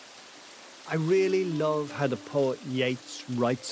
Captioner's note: voice-over